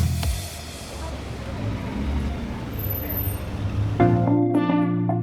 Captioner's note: car engine purrs; bright music